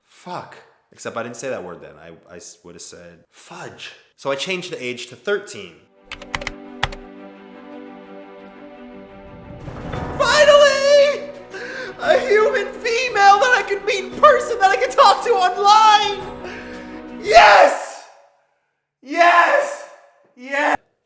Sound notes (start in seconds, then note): 6.1 typing Noises from a click-y keyboard; 11.4 inhale; 16.3 inhale